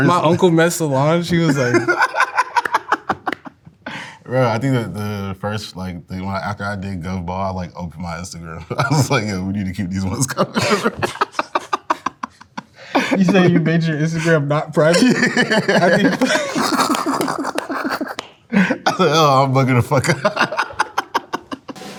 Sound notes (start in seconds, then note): 1.4 laughing; 10.0 laughs; 14.8 laughing; 16.1 clapping; 16.5 laughing; 21.1 laughs